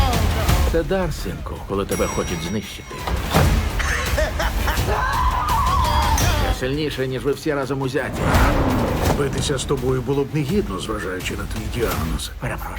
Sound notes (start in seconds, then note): 3.5 laughing; 5.1 screaming